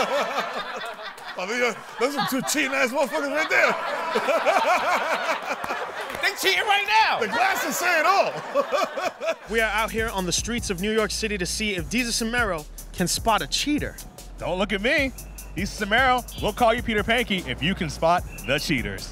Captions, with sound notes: [LAUGHTER] That's a cheating ass motherfucker right there. [LAUGHTER] They cheating right now! The glasses say it all. [LAUGHS] We are out here on the streets of New York City to see if Desus and Mero can spot a cheater. Don't look at me. Desus and Mero, we'll call you Peter Panky if you can spot the Cheaters.